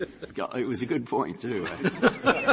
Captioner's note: laughter